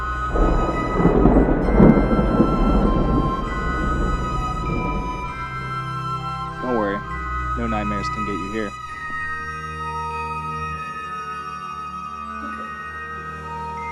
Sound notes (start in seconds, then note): 0.2 thunder